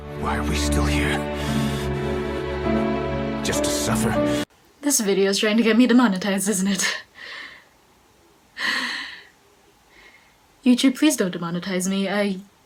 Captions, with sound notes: Why are we still here? Just to suffer? This video's trying to get me demonetized isn't it? *nervous exhale* YouTube please don't demonetize me, I--